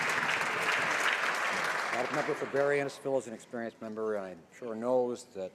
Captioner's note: some Applause